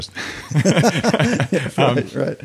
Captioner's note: both laughing